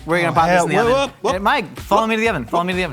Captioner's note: exclaims